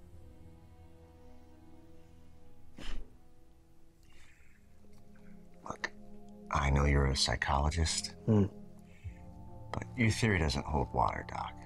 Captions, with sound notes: - Look, I know you're a psychologist, (Randy grunts) but your theory doesn't hold water, Doc.